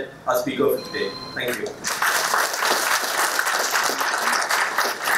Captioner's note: applause